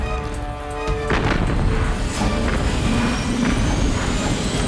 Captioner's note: cannons firing